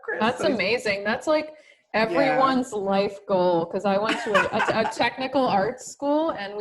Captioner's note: laughter